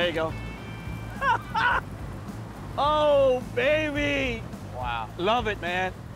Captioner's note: laughs